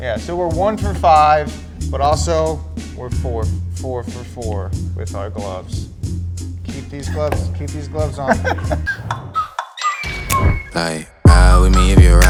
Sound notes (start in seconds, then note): 7.9 laughs; 9.4 kooky hip-hop music